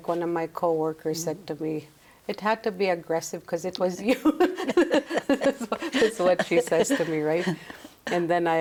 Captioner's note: laughs